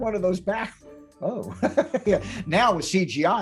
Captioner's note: chuckles nervously